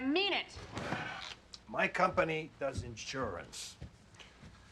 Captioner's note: sighs